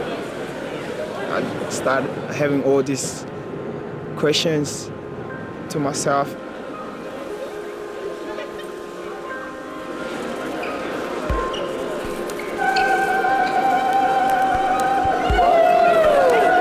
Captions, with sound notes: Started having all this questions to myself. (laughing) (trilling)